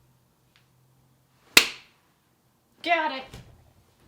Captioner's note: smack